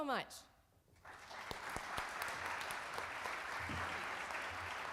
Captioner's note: audience applauds